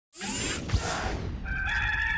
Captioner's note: logo swooshing; cock crowing